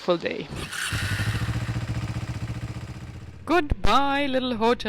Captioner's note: engine rumbling